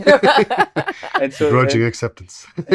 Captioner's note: laughing